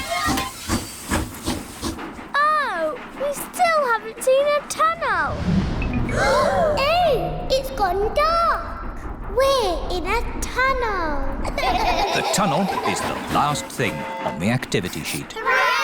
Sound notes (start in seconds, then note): 0.0 train chugs; 6.1 all gasp; 11.5 all laugh